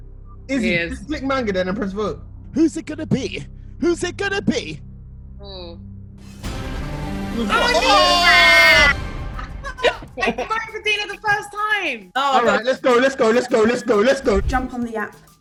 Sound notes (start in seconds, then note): 6.5 dramatic music; 7.4 group laughs and shouts